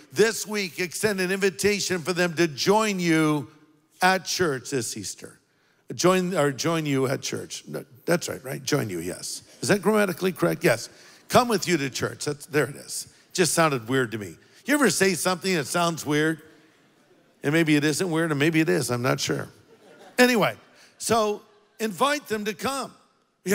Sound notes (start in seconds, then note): 19.6 congregation laughs